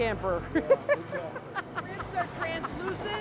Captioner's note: laughing